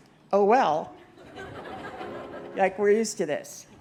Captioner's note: laughter